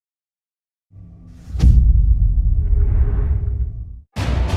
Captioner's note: dramatic sound